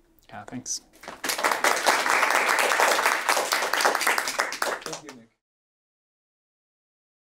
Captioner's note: applause